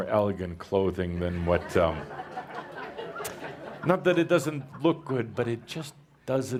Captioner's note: laughter as he pulls at Cauldre’s shirt